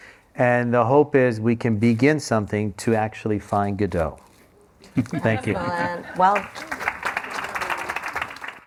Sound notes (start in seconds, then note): 4.8 laughter; 5.8 applause